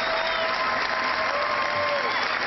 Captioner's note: cheering